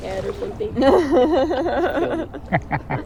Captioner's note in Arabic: يضحك